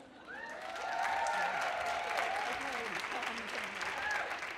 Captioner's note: audience cheers